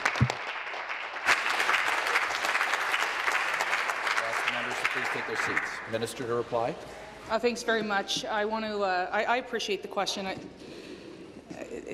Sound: applause

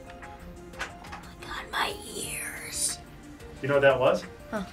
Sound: whispers

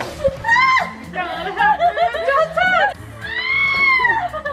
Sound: girls laughing

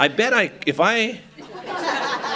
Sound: laughter

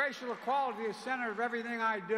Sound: applause

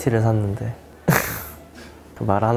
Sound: chuckling

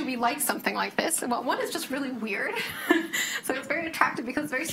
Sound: chuckles

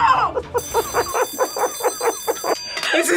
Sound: laughs; bell rings

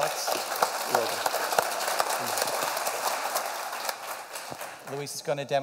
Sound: applause

